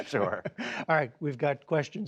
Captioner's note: laughter